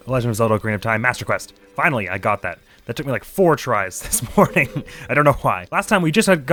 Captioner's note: laughs